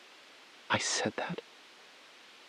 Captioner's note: beat